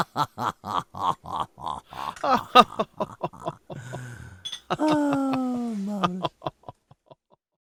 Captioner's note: quiet laughter